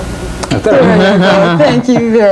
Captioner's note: laughs